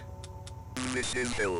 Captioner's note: trigger Clicking